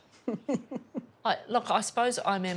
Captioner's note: giggles